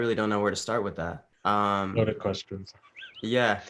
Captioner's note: chuckles